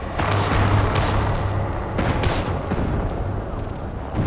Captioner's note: gunfire